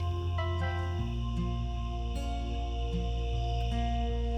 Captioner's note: phone beeps; lighthearted music continues